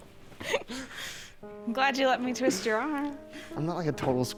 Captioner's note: chuckling